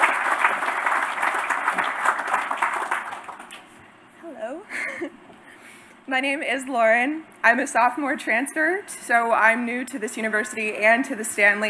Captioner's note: applause